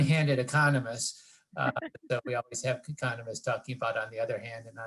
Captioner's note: laugh